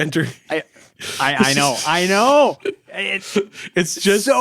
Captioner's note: laughing